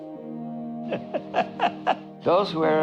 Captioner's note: laughing